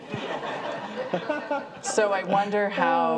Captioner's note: audience laughs